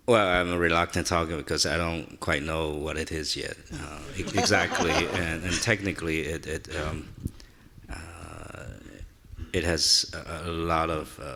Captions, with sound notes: - Well I'm reluctant talking because I don't quite know what it is yet (laughing) exactly and technically it has a lot of difficulties.